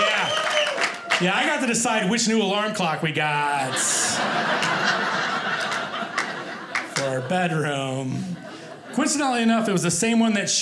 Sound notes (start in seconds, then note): 3.6 audience laughing